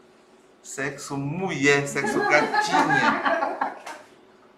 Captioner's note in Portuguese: risos